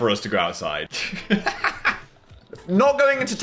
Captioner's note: Phil laughs